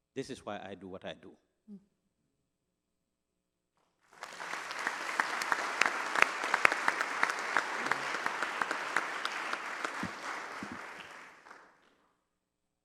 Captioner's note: applause